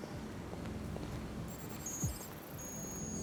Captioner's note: none